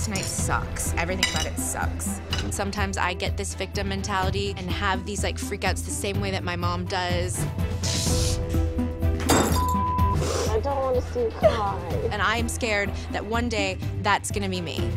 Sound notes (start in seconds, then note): 7.8 sniffles